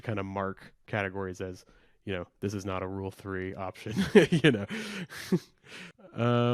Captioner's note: laughs